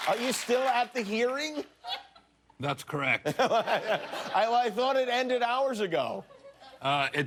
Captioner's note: cheers and applause